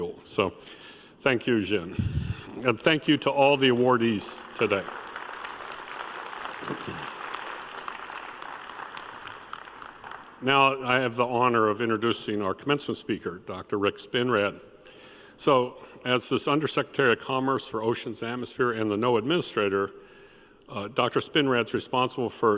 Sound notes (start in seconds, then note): 8.2 applause